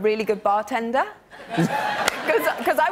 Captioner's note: laughter